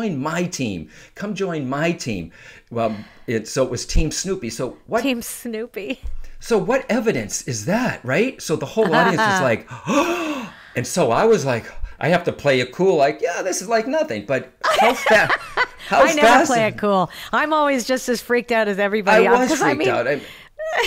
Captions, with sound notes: come join my team, come join my team. So it was Team Snoopy. - Team Snoopy. - So what evidence is that, right? So the whole audience is like (gasping) and so I was like, I have to play it cool, like, yeah, this is like nothing, - I never play it cool. I'm always just as freaked out as everybody else. - I was freaked out.